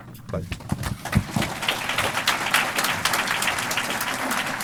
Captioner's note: applause